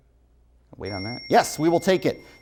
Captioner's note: bell rings